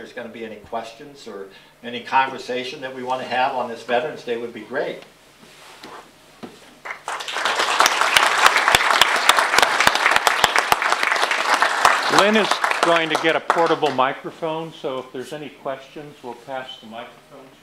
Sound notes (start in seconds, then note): 6.8 applause